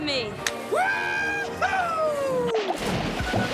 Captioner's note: <i> hands slapping</i>